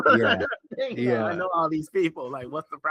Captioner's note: laughing